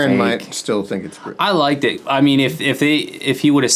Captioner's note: none